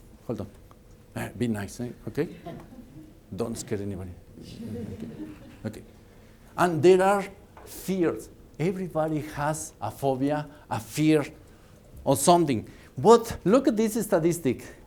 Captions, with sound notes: Don't scare anybody. [Laughter] Okay. And there are fears. Everybody has a phobia. A fear of something. What -- look at this statistic,